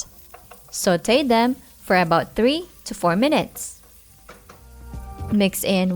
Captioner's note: oil sizzling